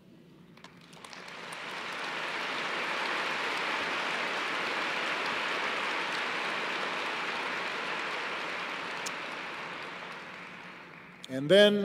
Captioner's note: applause